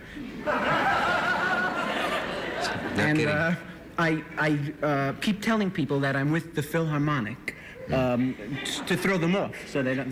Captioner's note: laughter